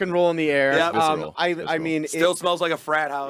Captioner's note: group chattering